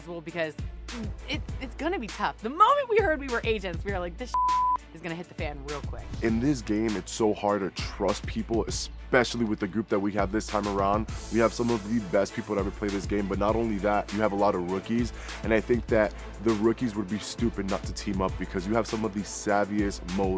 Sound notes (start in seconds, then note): 4.3 beep